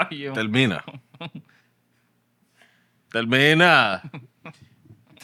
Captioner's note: speaking Spanish